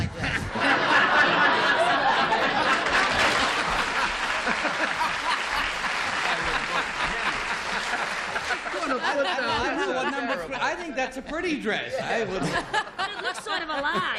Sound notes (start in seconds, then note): 1.7 laughter; 4.1 applause